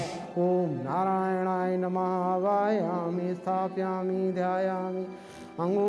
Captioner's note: man 7 chanting in foreign language